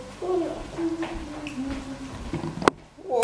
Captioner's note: child mumbling